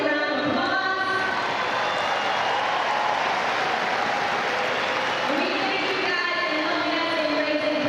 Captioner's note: applause